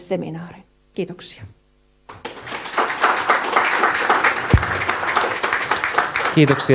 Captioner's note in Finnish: Aplodeja